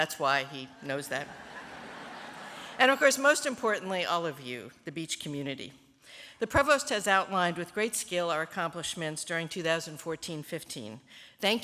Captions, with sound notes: SO THAT'S WHY HE KNOWS THAT [LAUGHTER]. AND, OF COURSE, MOST IMPORTANTLY, ALL OF YOU, THE BEACH COMMUNITY. THE PROVOST HAS OUTLINED, WITH GREAT SKILL, OUR ACCOMPLISHMENTS DURING 2014-15.